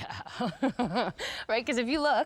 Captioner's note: chuckles